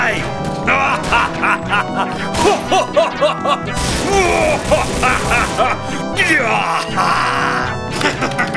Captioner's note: laughs like a maniac